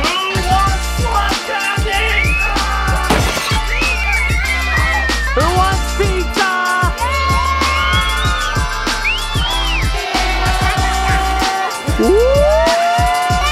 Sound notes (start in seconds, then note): 2.9 piñata crashes; 3.6 kids scream; 7.1 kids yell and scream; 10.2 sounds of celebration